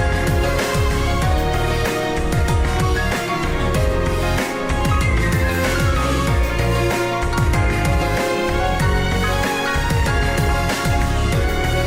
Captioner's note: laughs